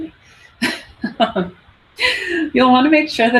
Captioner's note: laughs